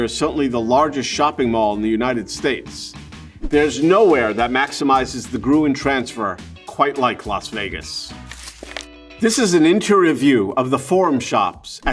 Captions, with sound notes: is certainly the largest shopping mall in the United States, there's nowhere that maximizes the Gruen transfer quite like Las Vegas. [paper rustling] This is an interior view of the Forum Shops